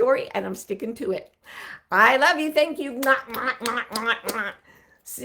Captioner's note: lips smacking